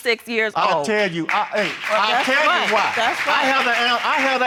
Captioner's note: applause